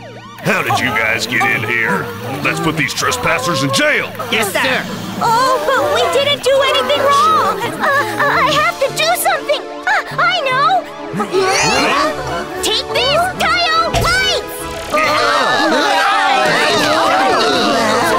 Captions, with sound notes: How did you guys get in here? Let’s put these trespassers in jail! Yes, sir! But we didn’t do anything wrong. I have to do something! Ah! I know! [police gasp] Take this! Tayo lights! [police scream, groan]